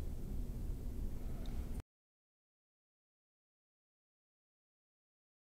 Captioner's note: brief audio gap and restart